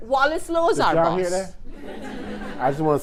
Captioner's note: attendees laughing